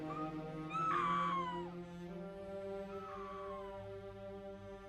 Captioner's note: Cathy screaming faintly